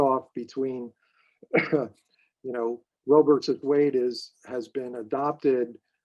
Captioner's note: coughing